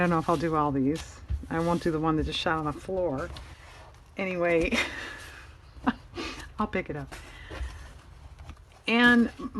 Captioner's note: laughs